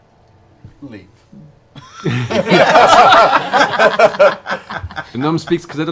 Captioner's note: laughter